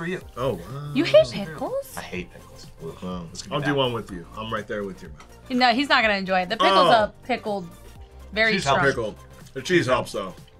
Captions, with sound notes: for you. - Oh, wow. - You hate pickles? - I hate pickles. (groans) Let's get that. - I'll do one with you. I'm right there with you. - He's not gonna enjoy it. - Oh! - The pickles are pickled. - Cheese helps. - Pickled. The cheese helps, though.